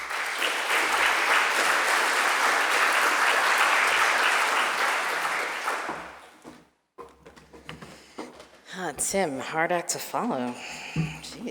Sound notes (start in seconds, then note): 0.0 attendees clapping; 6.9 footsteps pattering